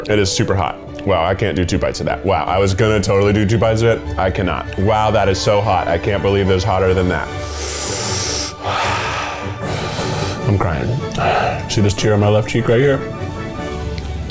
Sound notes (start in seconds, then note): 7.4 inhales sharply; 8.0 lively orchestra music